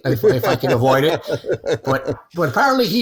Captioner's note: laughing